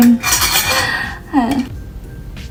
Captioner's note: haha